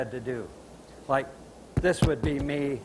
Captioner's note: signing while speaking